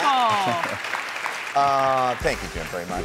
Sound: audience applauds

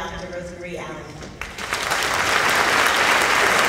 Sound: applauding

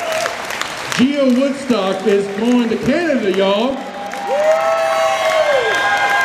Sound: more cheers

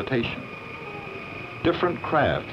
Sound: belt sander

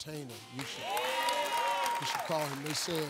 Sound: applause

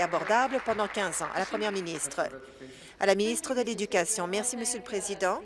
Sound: applause

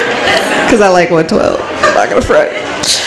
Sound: none

